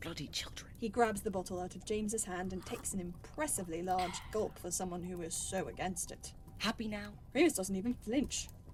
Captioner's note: gulp gulp